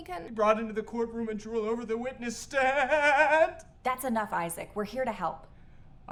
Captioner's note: sobs